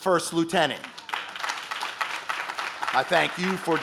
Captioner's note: audience claps